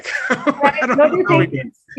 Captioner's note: laughs